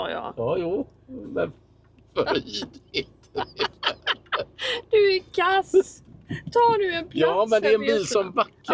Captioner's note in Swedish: skratt